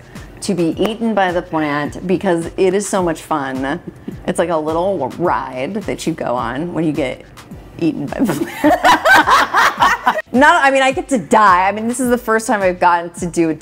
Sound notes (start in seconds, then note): 8.4 laughing